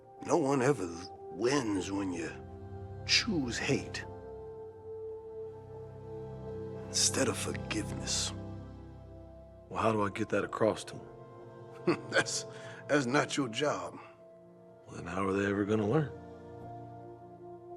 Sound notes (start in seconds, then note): 11.8 laughs